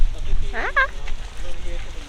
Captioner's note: squeals in excitement